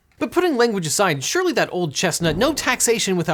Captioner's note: air whooshing